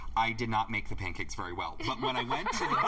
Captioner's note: laughter